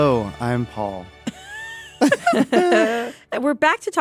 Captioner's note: laughter